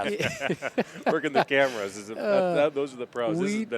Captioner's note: laughter